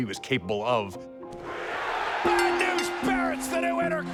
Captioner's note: applause